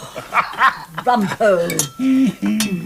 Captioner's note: all laugh